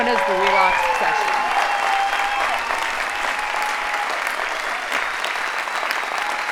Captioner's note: audience cheering and applauding